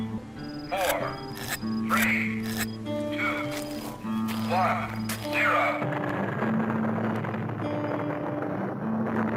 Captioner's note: sounds of exploding atomic bomb